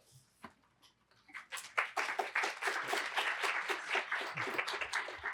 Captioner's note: applause